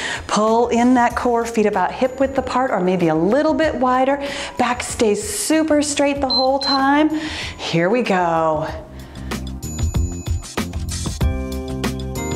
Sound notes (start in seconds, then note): 6.2 timer beeps; 9.0 cheerful music